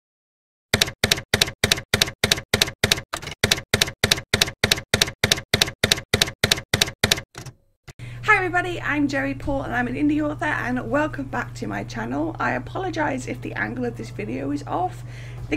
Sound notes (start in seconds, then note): 0.7 typewriter keys clacking